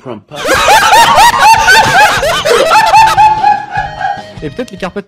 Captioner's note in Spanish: ríete